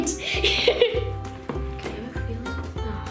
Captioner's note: laughter